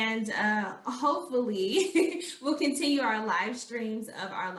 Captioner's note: chuckling